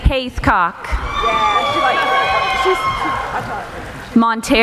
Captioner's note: cheering